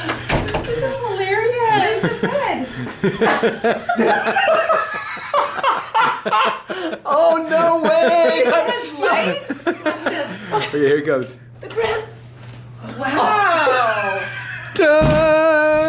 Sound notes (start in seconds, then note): 3.8 all laughing